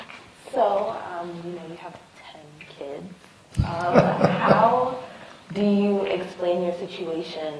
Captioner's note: laughter